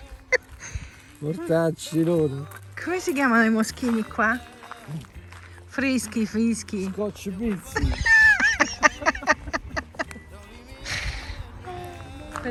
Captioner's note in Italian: Risate